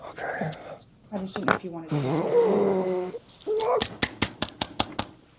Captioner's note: opens straw loudly